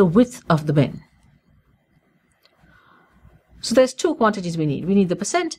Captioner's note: pause